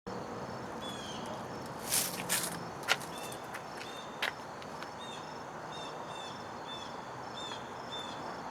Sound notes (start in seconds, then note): 0.0 sound of neighborhood